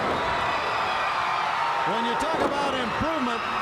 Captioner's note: crowd cheering